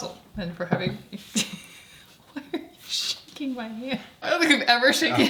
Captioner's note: laughs